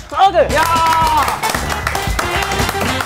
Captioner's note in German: Jubel, Applaus